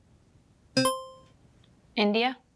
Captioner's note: buzzer chimes